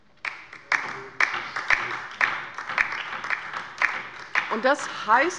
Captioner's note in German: Beifall bei der LINKEN